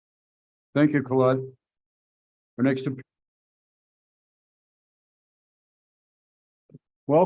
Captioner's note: audio drops out